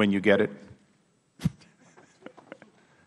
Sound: laughter

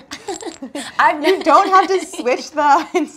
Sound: laughter

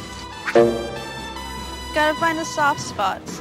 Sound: sproing!

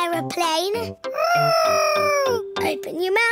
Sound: imitating aeroplane

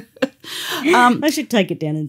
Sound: laughter

